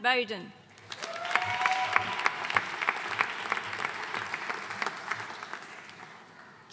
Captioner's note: audience cheering and applauding